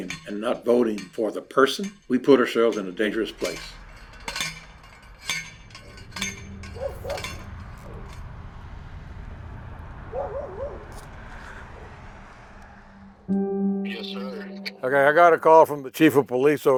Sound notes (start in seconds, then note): 3.6 metal clangs; 6.5 A dog barks in the distance; 12.6 tense music